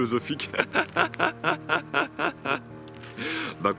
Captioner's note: laughs